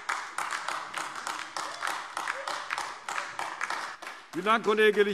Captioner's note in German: Beifall AfD